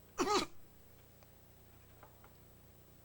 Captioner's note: gags